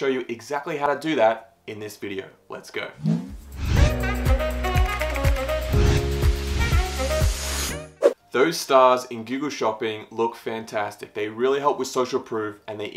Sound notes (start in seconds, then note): 3.0 upbeat music; 3.0 air whooshing; 7.9 air whooshing